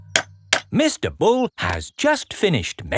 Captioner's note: clanking